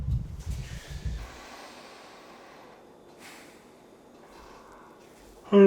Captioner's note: sighs